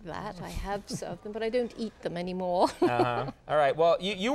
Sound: laughs

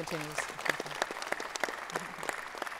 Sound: applause

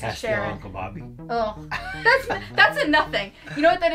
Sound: chuckles

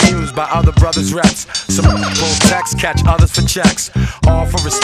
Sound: beep

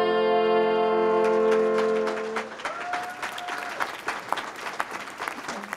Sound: audience applauding

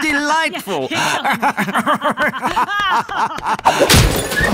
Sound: SMARTIES laughing; both laughing

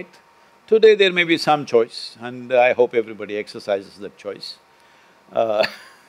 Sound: laughs

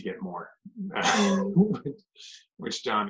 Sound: laughter

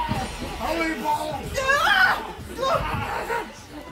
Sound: grunts of effort and screams

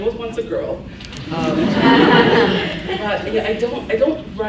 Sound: laughs

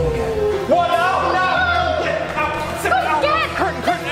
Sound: shouting

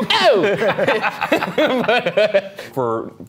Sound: group laughing

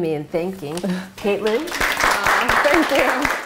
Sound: applause

